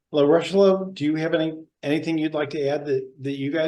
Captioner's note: none